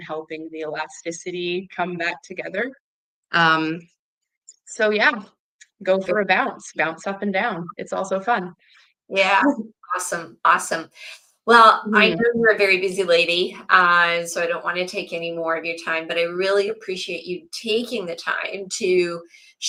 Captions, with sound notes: helping the elasticity come back together. Um, so yeah, go for a bounce. Bounce up and down. It's also fun. Yeah. (laughs) Awesome, awesome. Well- Mm-hmm. I know you're a very busy lady, uh, so I don't want to take any more of your time, but I really appreciate you taking the time to